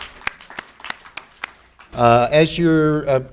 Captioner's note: audience applauds